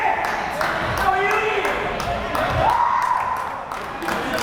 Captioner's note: crowd cheering